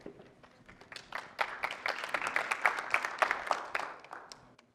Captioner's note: applause